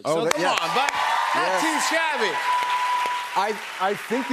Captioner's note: cheers and applause